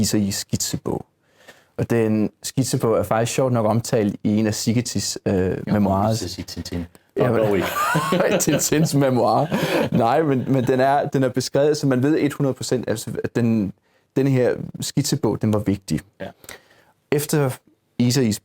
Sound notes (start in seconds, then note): 7.2 laughing